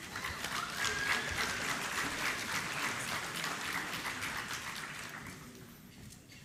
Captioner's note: applause